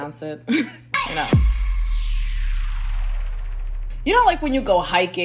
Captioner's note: explosion sound